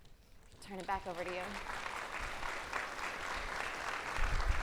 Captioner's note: applauding